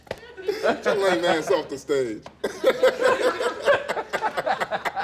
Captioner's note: laughter